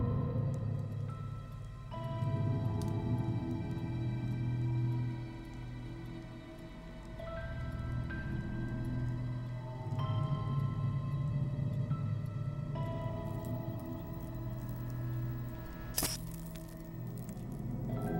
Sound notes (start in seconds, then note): 0.1 gentle spooky music continues; 14.2 electrical buzz and light bulb cracks